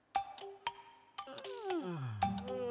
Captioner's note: yawning